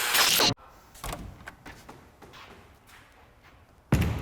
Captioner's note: door opening